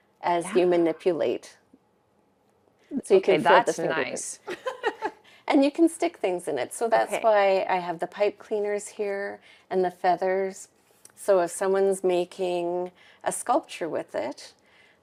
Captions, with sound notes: as you manipulate. So you can the difference. Okay, that's nice. (both laughing) And you can stick things in it. So that's why I have the pipe cleaners here and the feathers. So if someone's making a sculpture with it,